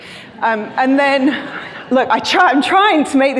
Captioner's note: crowd laughing